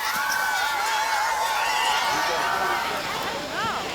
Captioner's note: cheering